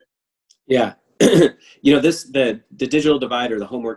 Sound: clears throat

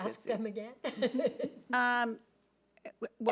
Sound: laughing

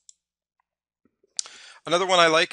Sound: mouse clicking

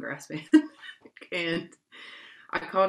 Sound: laughs

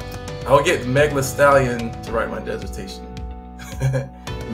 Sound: laughs

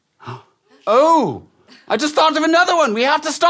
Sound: gasps

